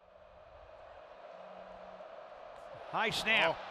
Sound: crowd roaring

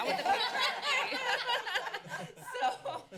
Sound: laughter

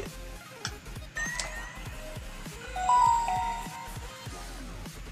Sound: Samsung Galaxy Tab 2 Startup Sound

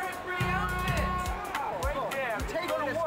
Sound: car honking

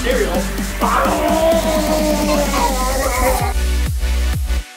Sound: growls; upbeat techno music

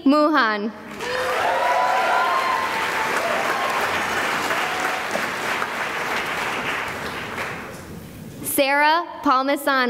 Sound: cheering and applause

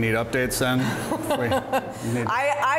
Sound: laughing

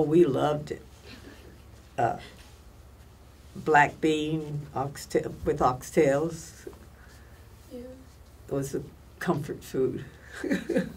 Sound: laughs

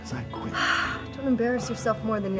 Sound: sigh

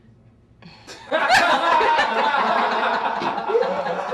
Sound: laughing

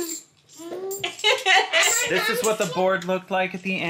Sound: chuckles

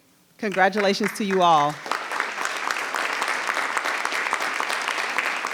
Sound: audience applauding

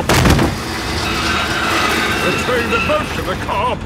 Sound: thud

